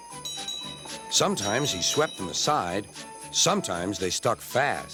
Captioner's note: bell dings